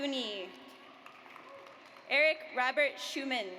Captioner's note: audience applauds